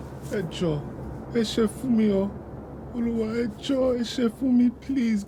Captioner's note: speaking in foreign language